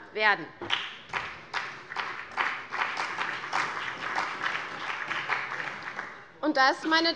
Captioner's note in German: Beifall bei der CDU und dem BÜNDNIS 90/DIE GRÜNEN